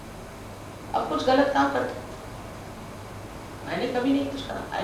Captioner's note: hindi